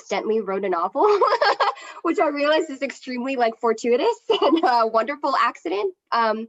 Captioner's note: laughs